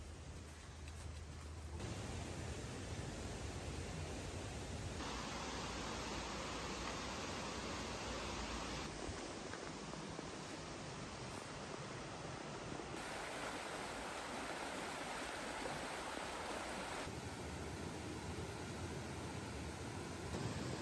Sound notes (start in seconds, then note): 2.2 flowing water